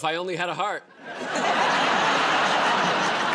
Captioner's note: laughter